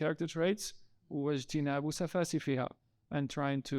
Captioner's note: speaking in foreign language